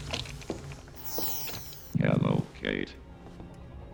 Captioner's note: beeping